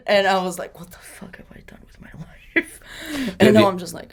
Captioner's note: laughs